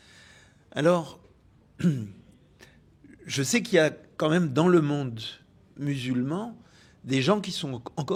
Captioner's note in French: raclement de gorge